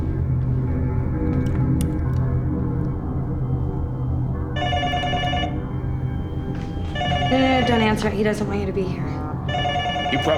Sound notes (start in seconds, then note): 4.5 phone ringing